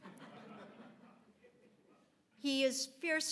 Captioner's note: audience laughs